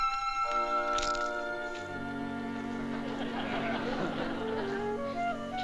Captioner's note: loud crunching